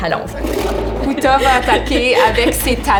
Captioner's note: roar